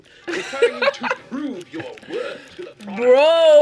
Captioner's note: laughs